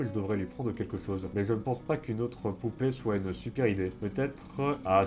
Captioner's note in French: Bruits de tondeuse